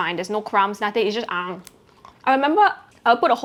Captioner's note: takes bite